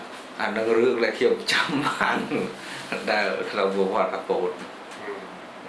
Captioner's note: laughs